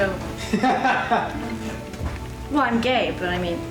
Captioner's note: laughs